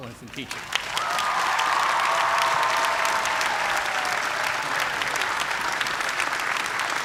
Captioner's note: cheers and applause